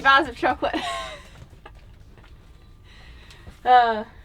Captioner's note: laughing